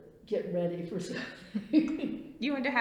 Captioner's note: laughs